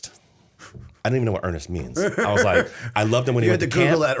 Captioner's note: laughter